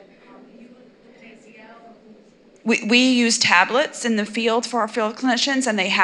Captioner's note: audience chatter